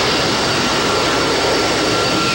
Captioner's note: landing plane